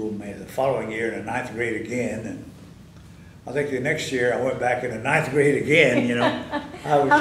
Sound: laughter

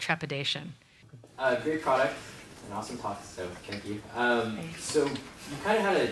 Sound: voiceover

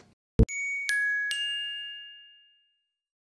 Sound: chimes

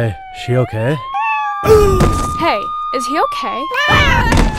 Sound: meow; meow

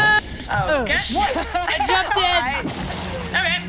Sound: laugh

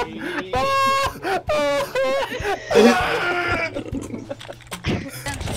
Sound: all dying of laughter

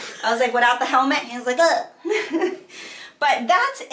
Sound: laughs

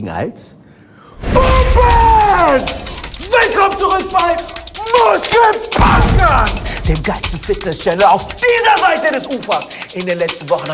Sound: shouts

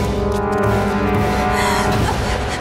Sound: gasps

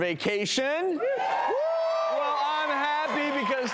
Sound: audience cheering

